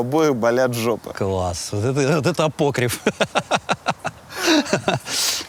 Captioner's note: laughs